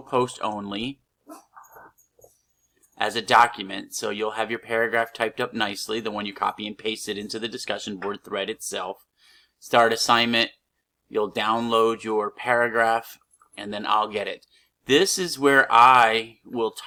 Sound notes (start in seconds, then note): 1.1 silence